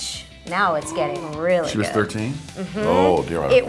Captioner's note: gasps